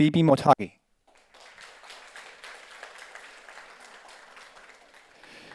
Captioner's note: audience applauds